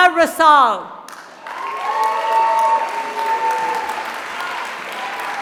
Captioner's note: applause